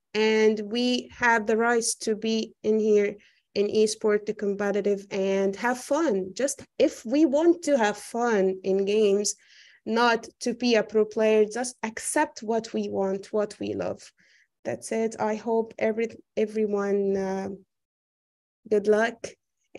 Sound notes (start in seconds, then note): none